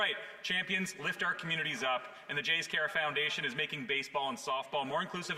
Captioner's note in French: voix de l'interprète